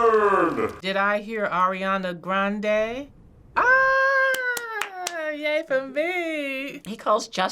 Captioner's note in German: klatscht